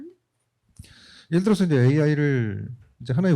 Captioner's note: speaking korean